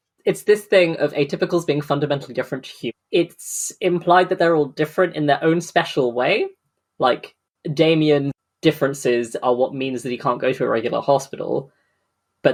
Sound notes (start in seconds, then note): none